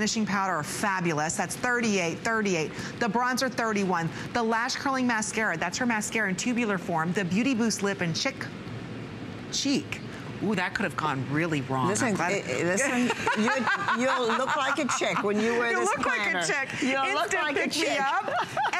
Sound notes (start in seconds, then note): 12.8 laughter